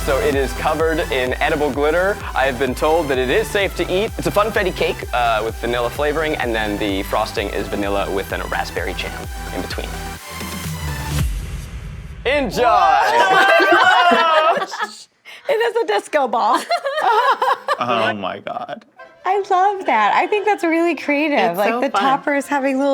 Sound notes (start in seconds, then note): 16.4 laughing